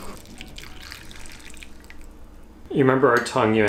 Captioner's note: liquid rushing